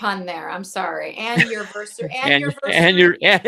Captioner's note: laughs